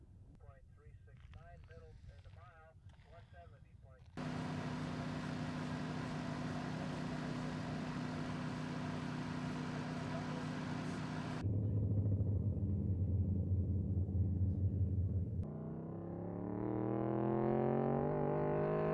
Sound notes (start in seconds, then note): 6.2 fan whirs; 11.8 airplane engine roars; 15.8 car engine roars